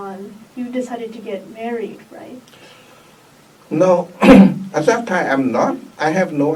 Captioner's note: coughs